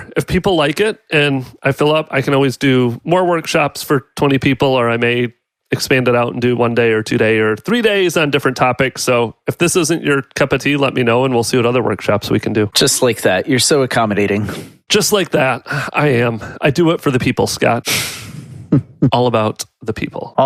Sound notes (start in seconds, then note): 18.6 laughs